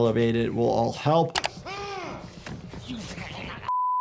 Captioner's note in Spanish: persona de traje grita